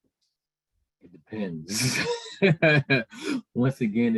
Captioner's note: laughing